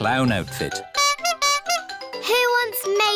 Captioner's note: toots horn